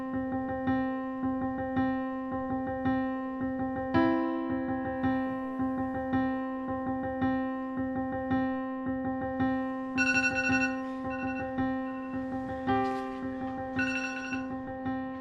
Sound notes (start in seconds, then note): 9.9 alarm ringing